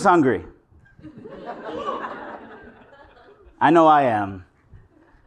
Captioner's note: laugh